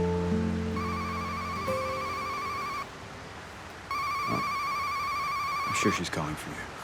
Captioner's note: Wes' cell phone rings